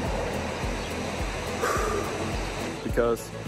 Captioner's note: relieved exhale